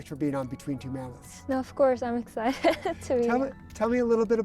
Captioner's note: laughs